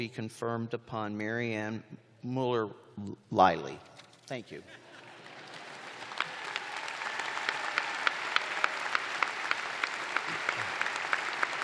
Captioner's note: applause